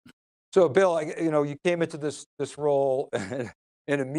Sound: chuckles

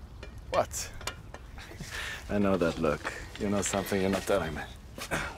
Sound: chuckles

